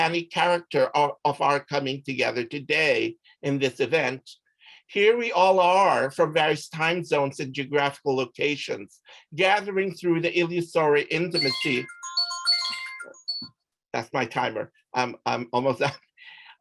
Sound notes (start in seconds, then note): 11.3 phone alarm chiming; 15.8 chuckles